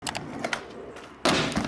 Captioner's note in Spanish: clic; golpes de patineta